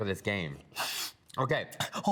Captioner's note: laughs